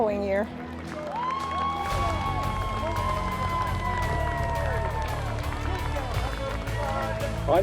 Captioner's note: cheering